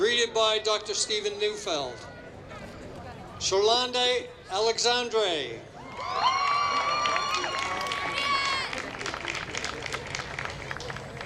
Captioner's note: applause